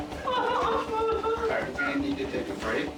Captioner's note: woman sobbing